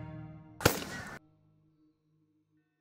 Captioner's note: gun shot